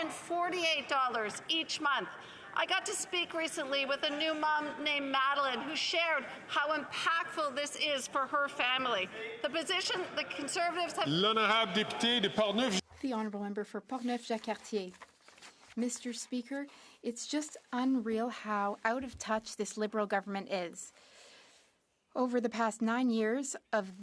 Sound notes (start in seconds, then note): 17.0 speaking French